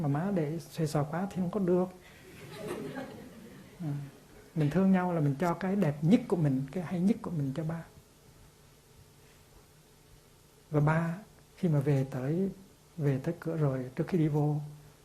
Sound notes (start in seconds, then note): 2.3 audience laughing